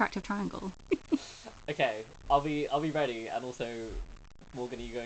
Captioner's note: laughs